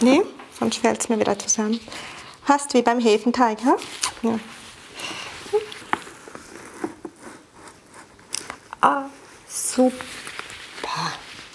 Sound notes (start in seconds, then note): none